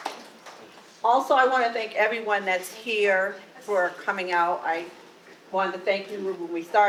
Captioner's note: audience applause